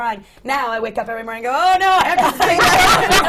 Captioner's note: laughter